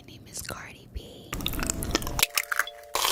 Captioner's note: chewing; eggs cracking